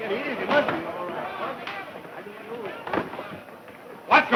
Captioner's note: clamor